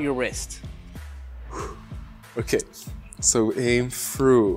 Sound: breathes

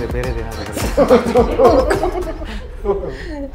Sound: laughing

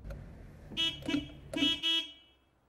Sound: car honks

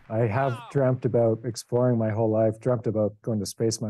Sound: applause

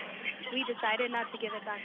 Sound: laughter

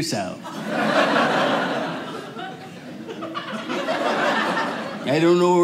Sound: audience laughing

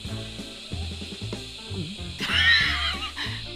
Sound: gulp; laughs

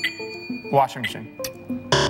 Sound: bell dings

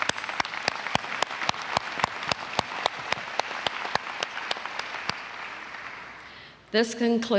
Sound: applause

